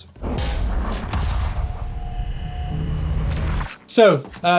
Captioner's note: digital buzzing